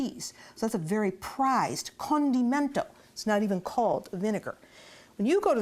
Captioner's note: italian